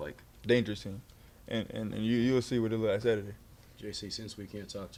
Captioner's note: stutters